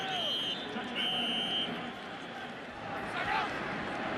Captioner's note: whistles